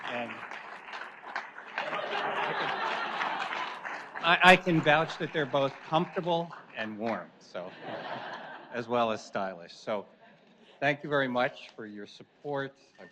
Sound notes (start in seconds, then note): 1.8 audience laughs; 7.6 audience laughs